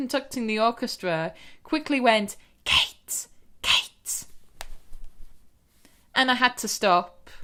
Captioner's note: whispers